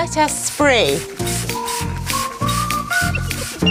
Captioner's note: spraying